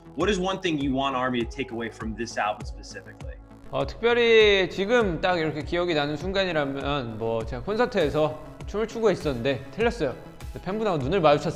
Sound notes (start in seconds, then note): 3.6 speaking foreign language; 6.0 mellow vibe music